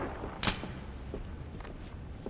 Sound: camera clicking

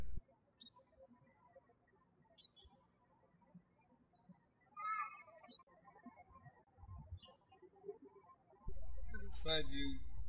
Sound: birds chirping

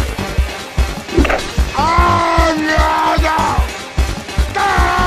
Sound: angry Yelling; more Angry Yelling

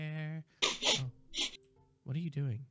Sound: sniffing

